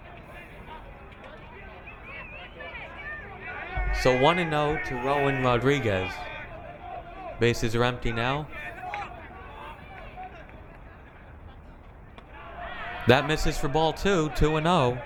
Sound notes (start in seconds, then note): 4.0 crowd yelling